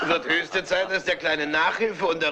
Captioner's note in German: alle lachen